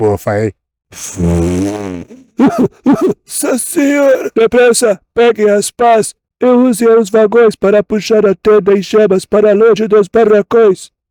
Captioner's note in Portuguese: risadas